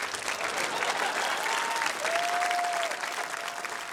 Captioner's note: laughter, applause